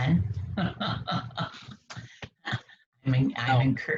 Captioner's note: laughs